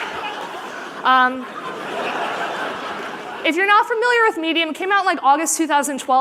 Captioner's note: laughter